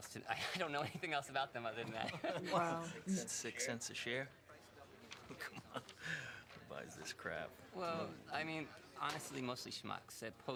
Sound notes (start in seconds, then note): 1.9 both chuckling; 5.2 laughing